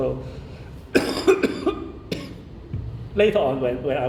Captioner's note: coughing